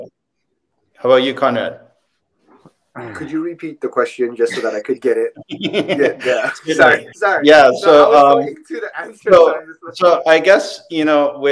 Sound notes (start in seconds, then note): 5.4 laughing